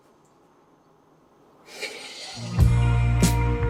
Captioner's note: deep inhale as music begins